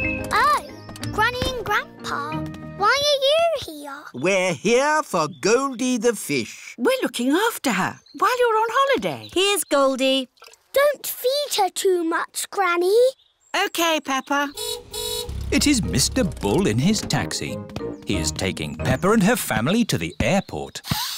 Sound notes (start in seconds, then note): 14.5 car horn honks